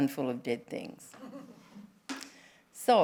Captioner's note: laughter